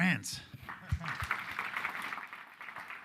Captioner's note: audience applauding